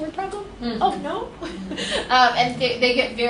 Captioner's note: laughs